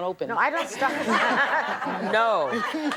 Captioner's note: laughter